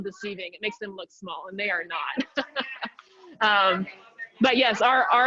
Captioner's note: chuckles